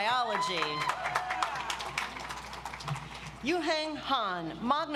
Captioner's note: audience applauds